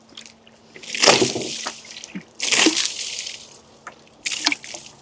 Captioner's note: water splashing